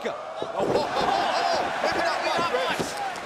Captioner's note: crowd cheering